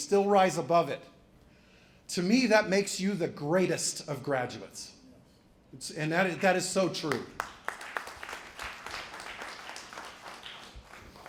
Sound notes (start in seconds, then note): 6.8 applause